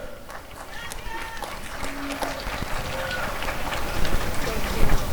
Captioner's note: applause and cheering